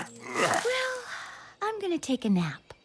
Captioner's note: croaks